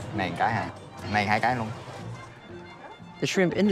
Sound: staff speaking in foreign language

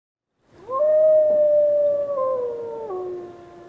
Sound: wolf howling

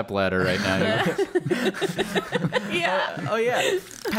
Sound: laughter

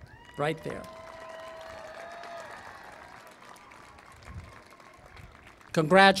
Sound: applause and Cheering

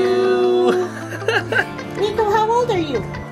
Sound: laughs

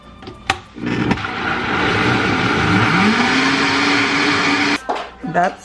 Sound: blender whirring loudly

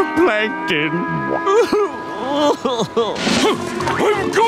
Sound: sobbing

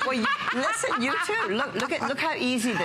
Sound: laughter

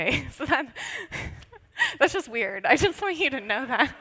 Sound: laughs

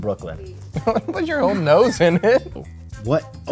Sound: laughing

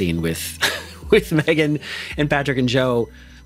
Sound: chuckles

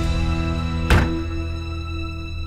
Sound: door closes

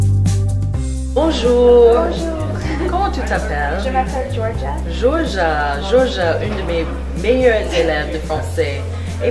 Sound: continue speaking in French

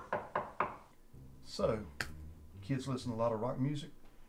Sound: resounding 'no'

